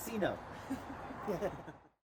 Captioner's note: man chuckling